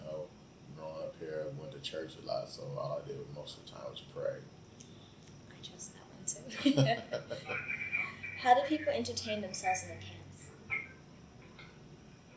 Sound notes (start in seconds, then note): 5.4 radio in the background; 6.5 both laugh